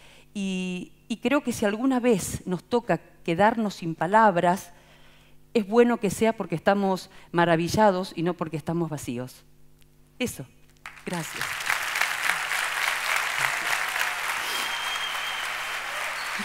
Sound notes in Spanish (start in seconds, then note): 10.8 Aplausos